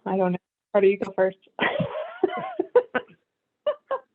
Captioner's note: laughter